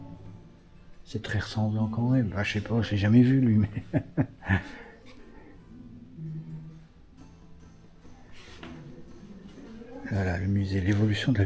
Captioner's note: laughs